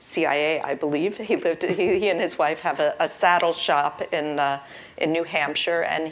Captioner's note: laugh